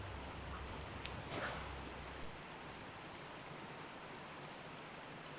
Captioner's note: water gushing